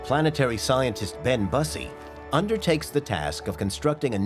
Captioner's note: none